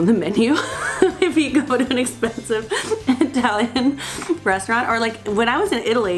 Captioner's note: laughing